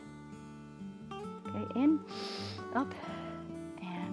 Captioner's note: inhales